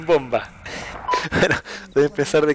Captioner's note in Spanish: risas